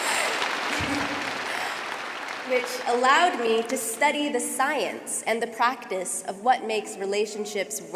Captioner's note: applause